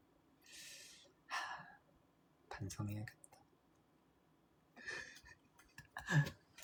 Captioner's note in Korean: 한숨